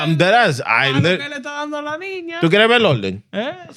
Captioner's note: speaking Foreign Language